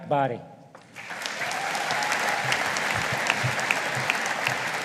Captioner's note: audience applauding